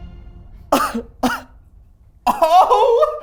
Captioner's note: laughing incredulously